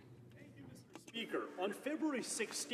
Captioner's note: speaking French